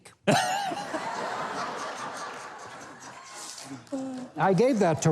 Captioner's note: Mike and audience laughing